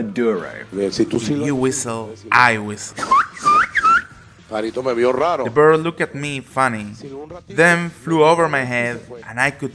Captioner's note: whistling